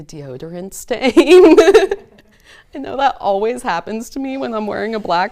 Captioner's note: laughs